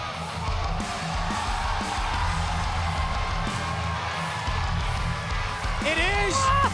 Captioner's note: crowd cheers